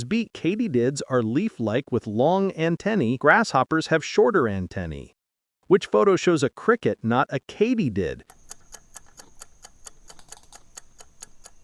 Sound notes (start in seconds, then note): 8.3 cricket